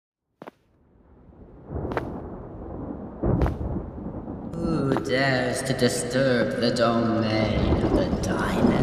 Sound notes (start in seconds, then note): 0.0 stormy ambience throughout. Brief footsteps. Mechanical sounds begin; 4.0 booming voice